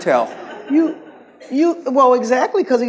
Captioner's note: audience laughs